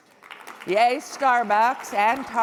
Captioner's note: audience clapping